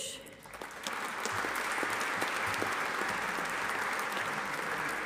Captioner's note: audience applauding